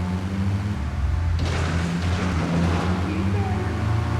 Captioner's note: speaking in foreign language